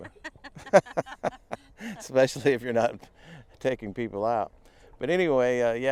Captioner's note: laughing